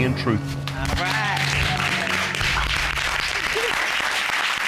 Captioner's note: applauding